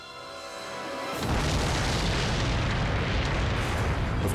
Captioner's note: explosion booming